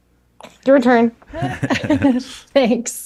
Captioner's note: all laugh